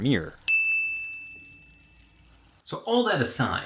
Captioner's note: bell chimes